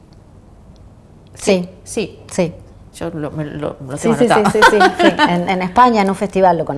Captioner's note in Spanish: risas